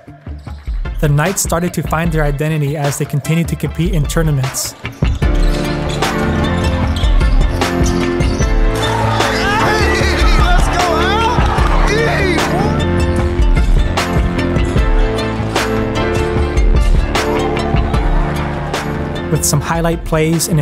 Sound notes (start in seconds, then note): 4.9 upbeat music; 8.6 cheering